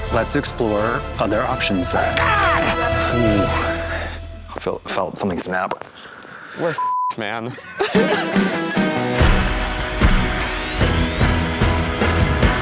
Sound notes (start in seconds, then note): 2.0 yelling; 7.4 laughing; 7.8 upbeat music